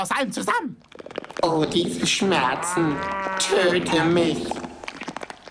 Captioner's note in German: Mutantenstimme